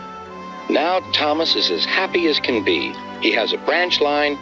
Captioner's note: through a voice box